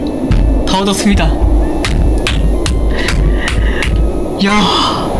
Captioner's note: clap clap clap